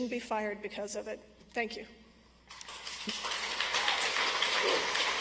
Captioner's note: audience applauds